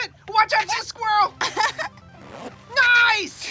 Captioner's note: laughs